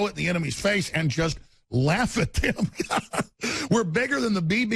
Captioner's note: laughs